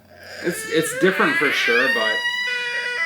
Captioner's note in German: DJ weint